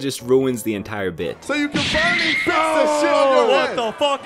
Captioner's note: Dragon Ball Punching Sound Effect